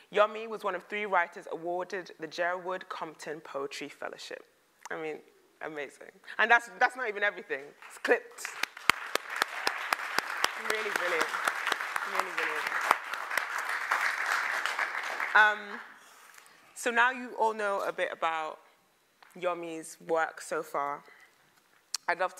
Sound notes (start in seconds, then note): 8.3 applause